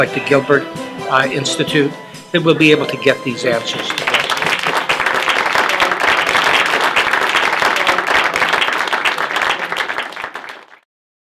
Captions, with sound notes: the Gilbert Institute, that we’ll be able to get these answers. [Clapping]